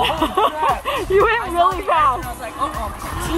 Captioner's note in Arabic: ضحك